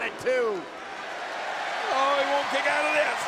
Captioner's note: audience cheers